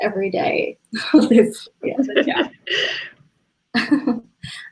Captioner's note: laughing